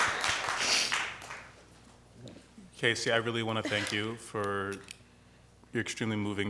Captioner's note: applause